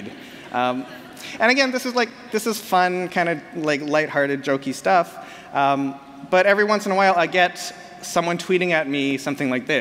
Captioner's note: laughter